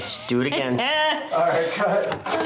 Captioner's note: laughing